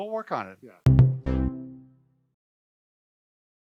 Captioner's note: cheerful tone